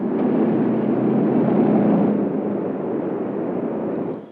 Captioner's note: trucks rumbling